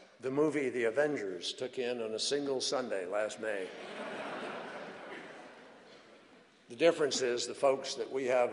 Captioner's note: laughter